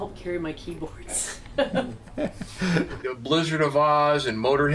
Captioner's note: laughing